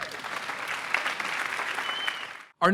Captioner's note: applause